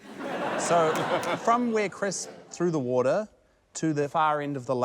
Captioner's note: laughter